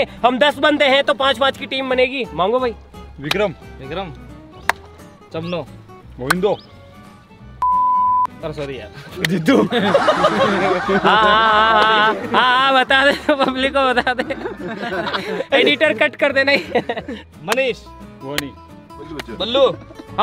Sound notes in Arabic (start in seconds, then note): 7.6 صوت صفير; 9.8 يضحك